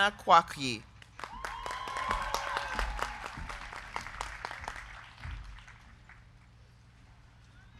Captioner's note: crowd clapping; crowd cheering